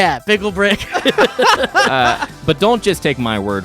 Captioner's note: laughing